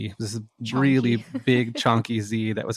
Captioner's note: laughs